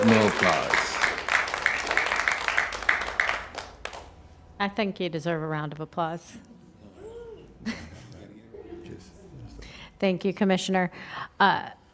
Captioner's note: applause